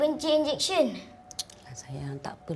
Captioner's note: in Bahasa Melayu